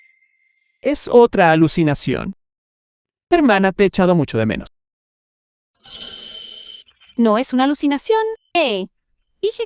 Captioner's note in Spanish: campana